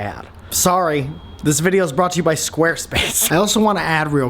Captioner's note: laughs